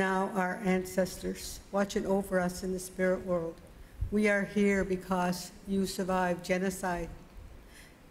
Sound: speaking Indigenous LANGUAGE

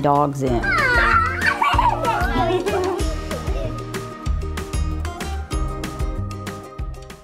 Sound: upbeat music; children laughing

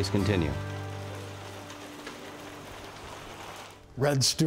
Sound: rain tapping

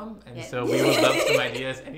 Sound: laughs

